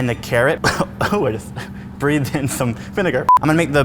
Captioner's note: coughs